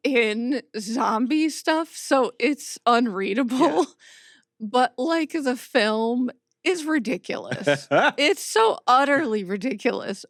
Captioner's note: chuckles